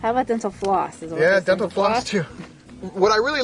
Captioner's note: laughs